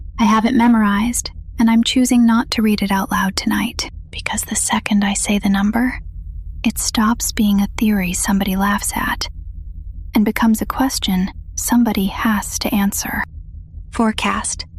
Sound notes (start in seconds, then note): 4.5 whispers